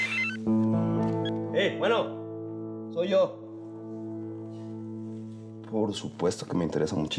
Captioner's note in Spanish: suena el celular